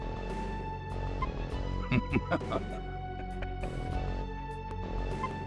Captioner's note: geese